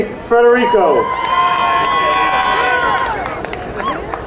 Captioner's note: crowd cheering